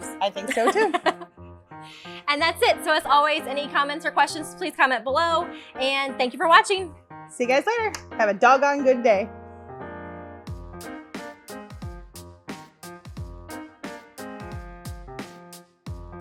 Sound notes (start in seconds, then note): 0.4 laughing; 9.8 lively piano and drum beat